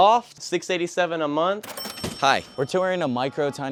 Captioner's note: register bell rings